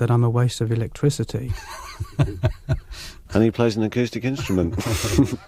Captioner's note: chuckles